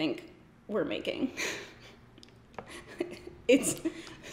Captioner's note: giggles